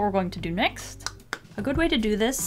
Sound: clap, clap

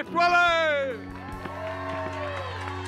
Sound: applause

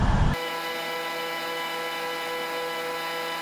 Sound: audio buzzing

